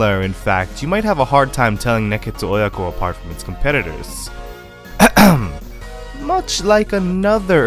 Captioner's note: ahem